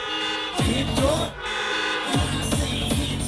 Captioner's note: car horns sound